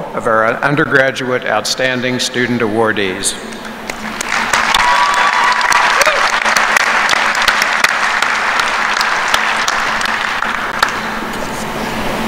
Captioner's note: applause